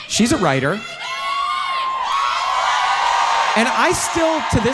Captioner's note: audience cheering